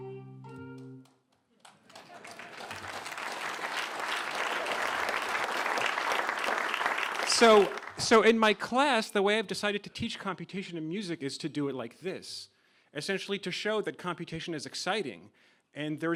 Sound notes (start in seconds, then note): 1.6 applause